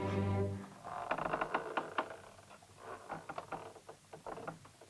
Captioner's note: door creaks open